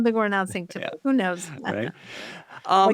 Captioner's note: laughs